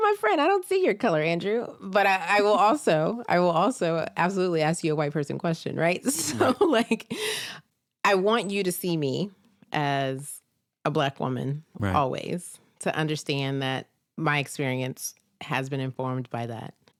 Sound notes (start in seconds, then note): 6.2 chuckles